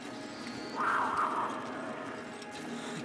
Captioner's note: the growls of a cougar are heard echoing in the distance